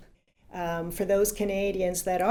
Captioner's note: in English